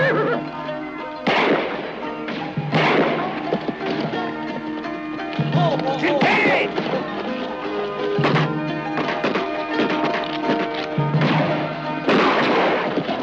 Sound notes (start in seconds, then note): 1.2 gunshots echoing; 8.0 gunshots; 12.0 gunshot